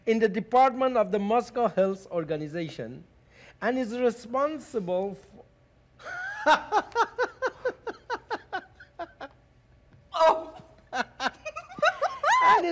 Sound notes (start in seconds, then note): 6.5 Doctor loudly laughing; 10.2 Zina lightly giggling